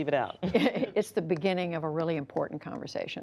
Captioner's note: laughter